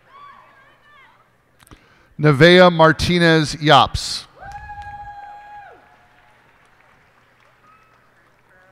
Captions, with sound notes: Nevaeh Martinez Yopps. [cheers and applause]